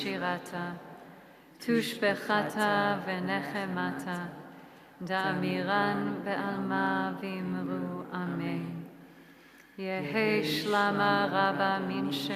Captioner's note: praying in hebrew/aramaic